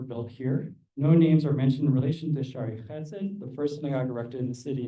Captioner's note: non-english